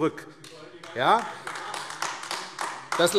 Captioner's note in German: Beifall AfD - Zurufe BÜNDNIS 90/DIE GRÜNEN